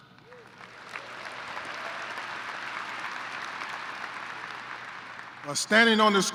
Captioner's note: applause